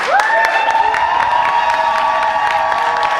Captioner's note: applause and cheers